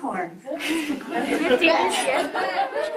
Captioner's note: group chuckles